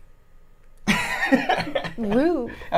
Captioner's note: laughing